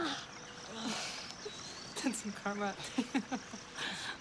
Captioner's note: chuckles